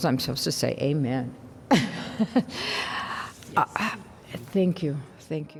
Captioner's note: laughter